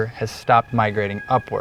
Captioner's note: rooster crowing, no additional audio